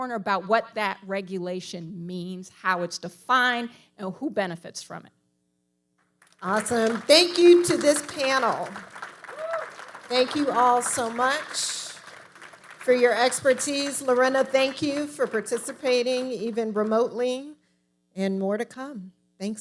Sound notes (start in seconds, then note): 8.8 audience applauding